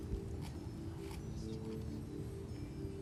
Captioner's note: whispering